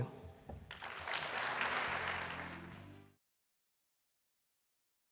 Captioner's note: audience applauds